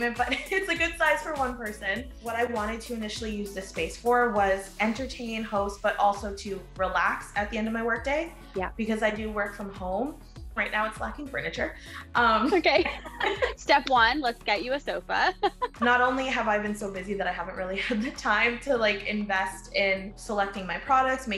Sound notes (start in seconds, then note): 12.2 laughing; 15.3 laughs